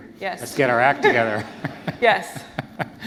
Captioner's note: laughter